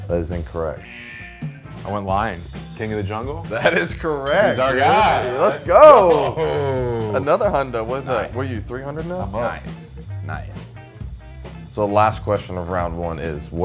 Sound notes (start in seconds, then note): 0.9 buzzer blaring; 5.8 man chuckling